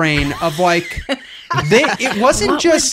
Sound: laughing

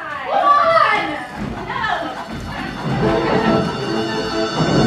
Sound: bells chiming; energetic music

